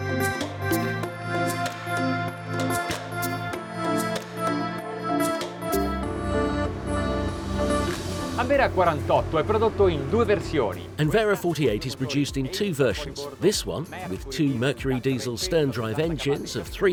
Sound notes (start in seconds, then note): 8.9 speaking in foreign language